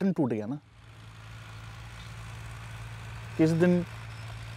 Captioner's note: Tractor Sound